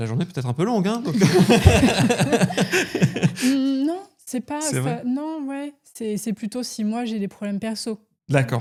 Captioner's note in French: rires